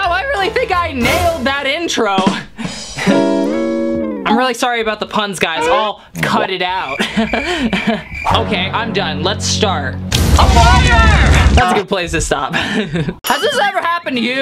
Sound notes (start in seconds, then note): 2.9 laughs; 6.8 laughs; 6.8 crickets chirping; 12.5 laughs